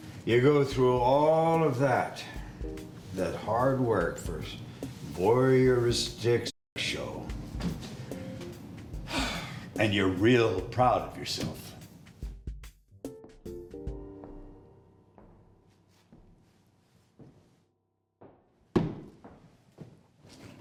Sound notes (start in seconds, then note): 11.4 upbeat music; 15.1 footsteps